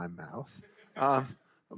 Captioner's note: attendee laughing